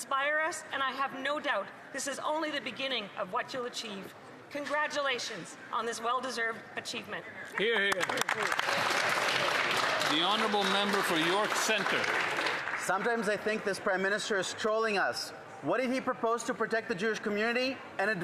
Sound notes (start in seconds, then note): 14.0 applause